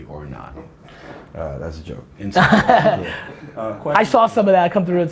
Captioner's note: Gary laughs